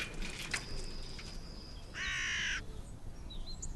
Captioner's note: crow singing